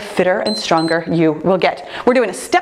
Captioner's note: timer beeps